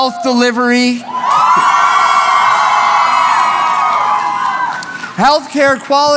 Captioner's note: cheering